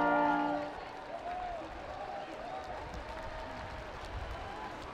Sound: students chattering

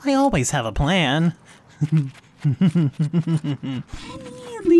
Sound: chuckling

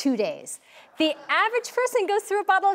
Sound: audience murmurs

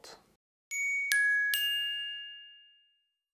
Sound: chiming

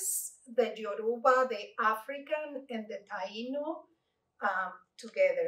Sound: Spanish

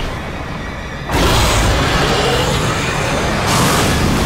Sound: roaring

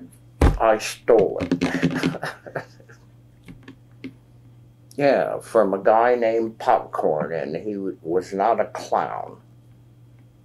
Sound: laughs

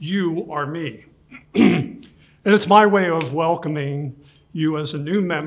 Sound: clears throat

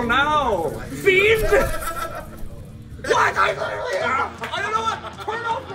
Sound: laugh

